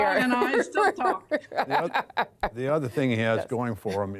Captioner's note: laughter